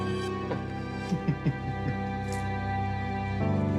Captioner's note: laughs heartily